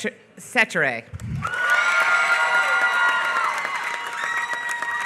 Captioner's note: applause